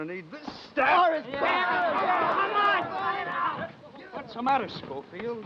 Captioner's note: men yelling